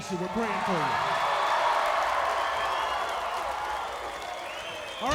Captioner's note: crowd cheering